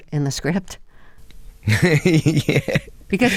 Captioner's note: laughter